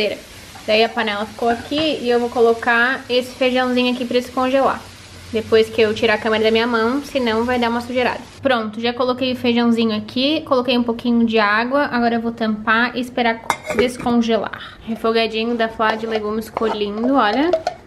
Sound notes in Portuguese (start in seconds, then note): none